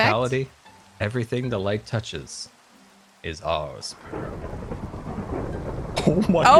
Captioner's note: thunder